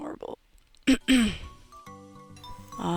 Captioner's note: clears throat